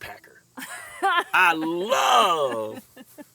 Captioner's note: laughs